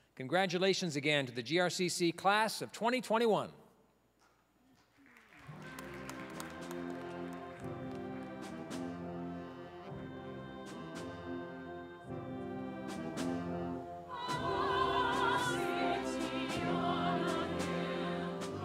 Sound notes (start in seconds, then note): 4.7 applause; 5.5 orchestral music; 14.4 choir singing